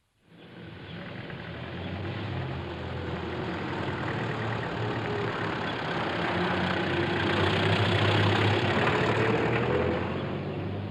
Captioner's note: car engine rumbling